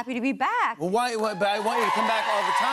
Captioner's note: cheers and applause